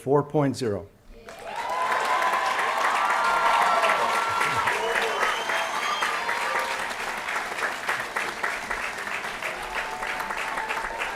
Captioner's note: applause & Cheering